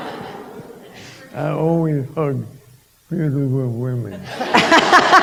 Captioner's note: laughter